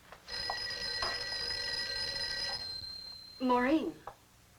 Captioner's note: phone ringing